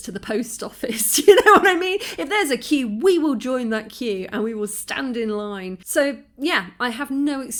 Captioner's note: laughing